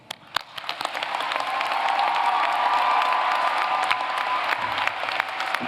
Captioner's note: applause; cheering